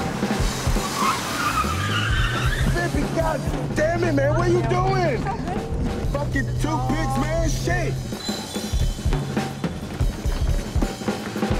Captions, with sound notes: (brakes squeal) - Bibby, goddammit man, what you doing? - It's okay. - Fucking two pigs, man, shit! (energetic music)